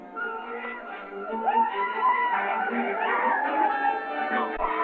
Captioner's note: men cheering